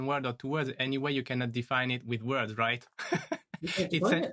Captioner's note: laughs